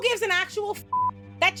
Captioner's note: beep